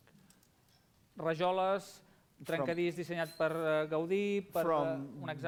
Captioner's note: non-english speech